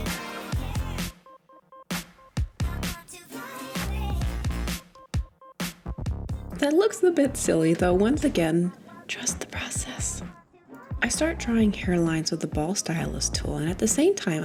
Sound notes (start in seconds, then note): 8.5 whispers